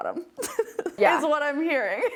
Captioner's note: laughing